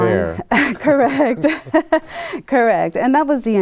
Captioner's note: chuckles